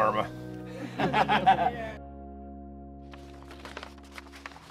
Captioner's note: laughing